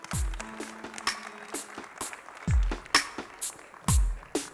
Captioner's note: applause